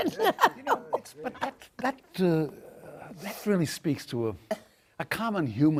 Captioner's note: laughs